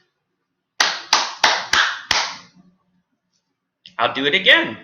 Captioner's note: clap, clap, clap, clap, clap